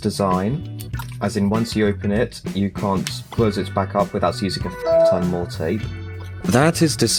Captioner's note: windows 7 log off sound